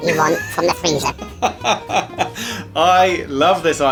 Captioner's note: laughs